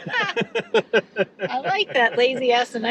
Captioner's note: pair laughs